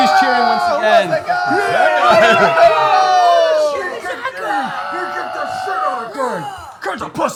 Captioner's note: cheering